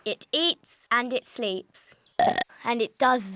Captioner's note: burps